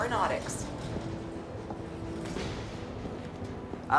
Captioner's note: footstep